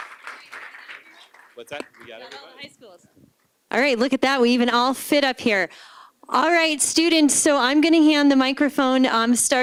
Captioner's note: applause